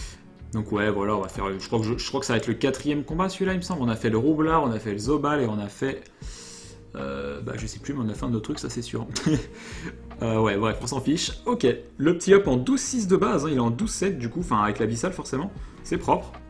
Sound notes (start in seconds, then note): 6.2 inhale; 9.1 chiggle